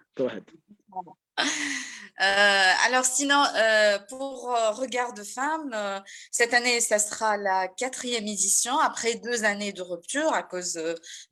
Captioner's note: speaks in French